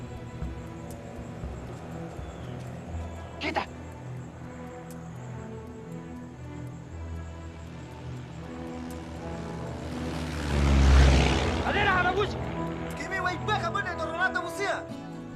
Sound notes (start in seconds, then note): 0.2 airplane engine buzzing; 9.8 airplane whooshes; 9.8 shouting in native language